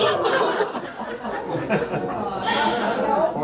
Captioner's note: laughter